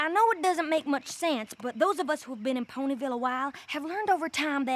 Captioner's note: none